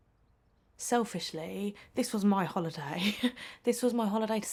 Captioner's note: chuckles